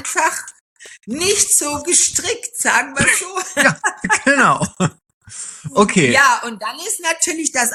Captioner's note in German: gelächter